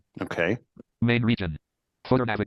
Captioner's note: computer voice